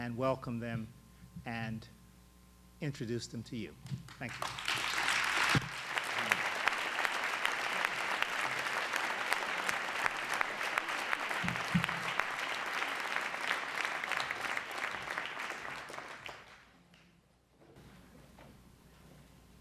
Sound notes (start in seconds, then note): 4.5 applause